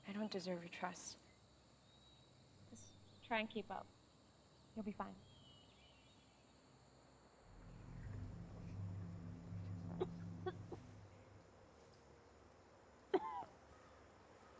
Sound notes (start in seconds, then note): 7.4 ominous music; 10.1 Beet coughs